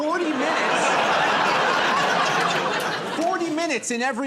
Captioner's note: laughter